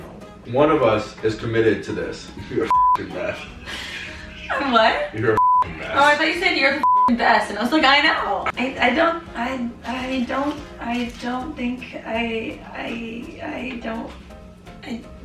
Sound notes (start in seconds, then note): 2.7 beep; 6.8 beep; 11.3 stutters